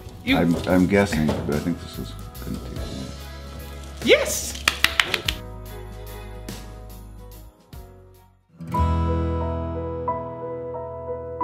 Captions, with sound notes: - I'm guessing, but I think this is going to take... - Yes! (applauds) (dramatic piano)